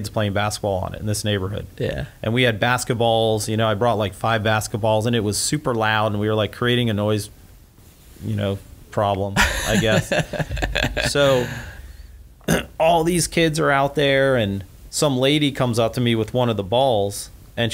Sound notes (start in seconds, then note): 9.4 laughs